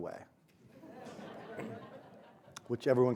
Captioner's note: audience laughs